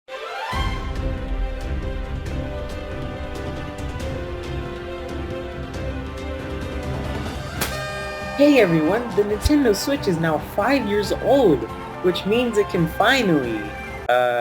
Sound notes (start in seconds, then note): 7.7 party horn